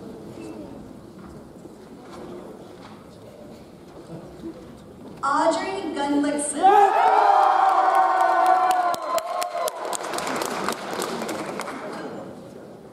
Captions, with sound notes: Audrey Gunlikson. (audience cheers) (audience applauds)